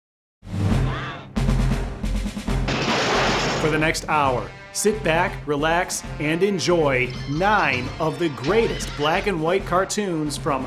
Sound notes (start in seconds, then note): 0.3 dramatic music; 2.6 car crashes